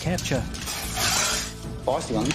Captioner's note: snake hissing